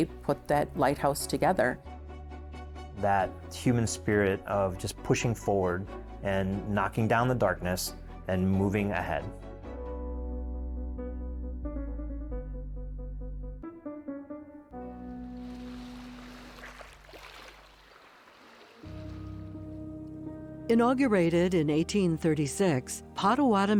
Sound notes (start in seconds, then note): 10.1 fast, tense piano; 15.2 water lapping shore; 18.2 pensive music